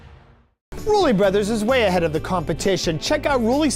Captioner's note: voiceover